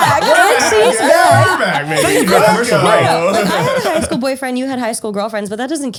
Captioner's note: laughter